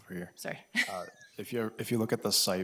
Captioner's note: laughs